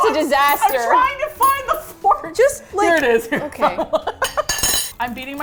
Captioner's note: laughs